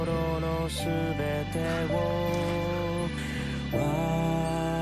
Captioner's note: gasps in short bursts